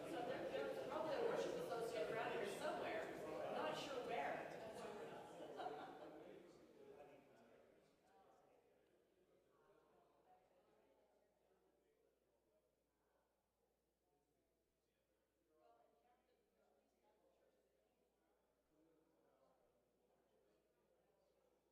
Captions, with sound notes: - So there probably a worship associate brothers somewhere. I'm not sure where. (congregation chattering) (congregation laughing) (congregation chattering)